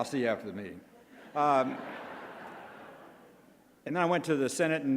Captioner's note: crowd laughs